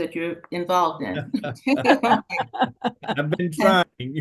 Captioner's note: everyone laughing